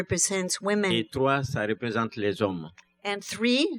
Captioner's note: speaking french